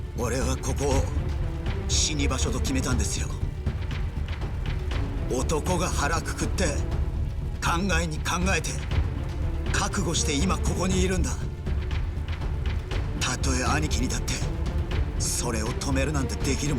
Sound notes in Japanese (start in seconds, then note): none